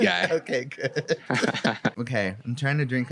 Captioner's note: laughs